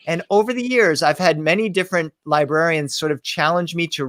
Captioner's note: none